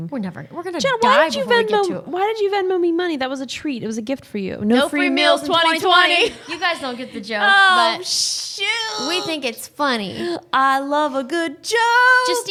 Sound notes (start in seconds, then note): 6.2 both laughing